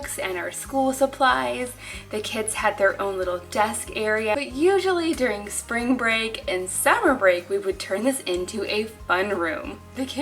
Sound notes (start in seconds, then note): none